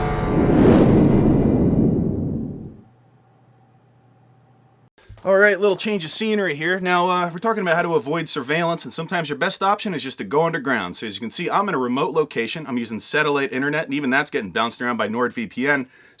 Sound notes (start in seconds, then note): 0.7 wind